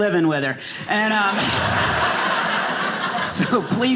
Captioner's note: audience laughing